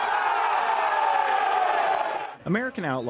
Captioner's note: fans cheering